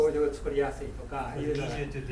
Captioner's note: speaking in foreign language